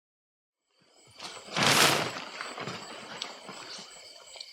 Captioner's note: tarp rustling